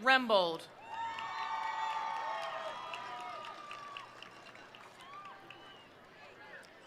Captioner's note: attendees cheering; attendees applauding